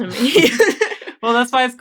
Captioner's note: laughing